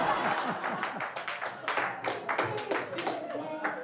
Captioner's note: laughing; clapping